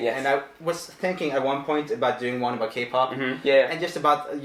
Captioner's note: none